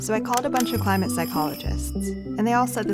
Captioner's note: phones ringing